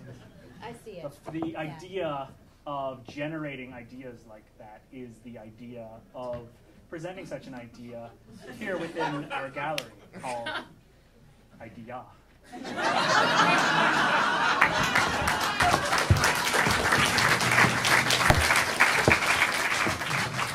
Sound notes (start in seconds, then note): 13.3 audience applauding